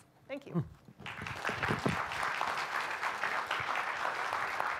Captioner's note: audience clapping